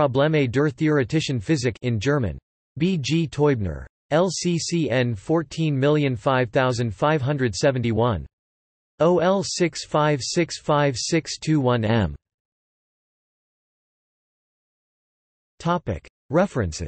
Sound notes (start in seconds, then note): 2.4 in German